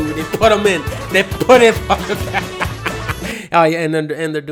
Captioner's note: laughs